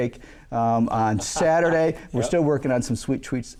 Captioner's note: laughing